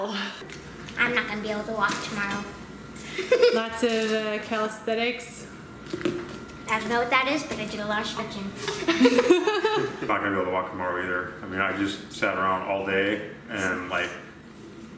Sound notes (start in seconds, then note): 3.1 laughs; 8.6 laugh